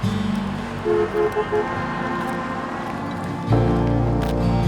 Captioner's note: car honking